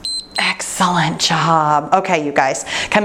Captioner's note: timer beeps